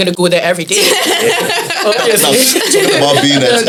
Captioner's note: laughs